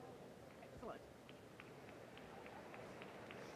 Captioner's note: applause